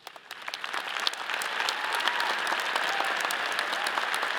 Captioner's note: all applauding